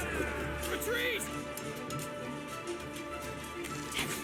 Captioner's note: grunting